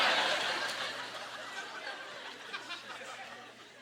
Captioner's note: audience laughter